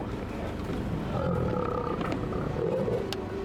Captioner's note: lion growls